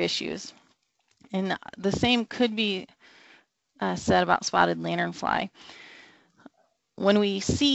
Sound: long breath

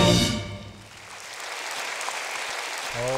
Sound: applause

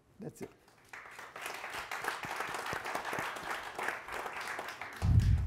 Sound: audience applauding

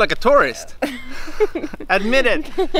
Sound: laughs

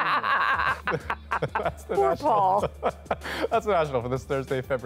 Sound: laughter

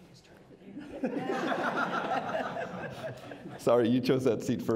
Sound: crowd laughing

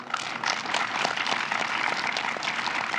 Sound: applause

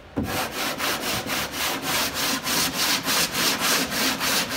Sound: sandpaper scraping

